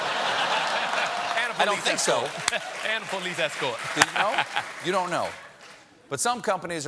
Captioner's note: laughter